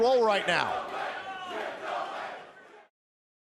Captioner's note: fans chanting